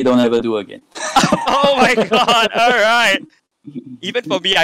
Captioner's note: both laughing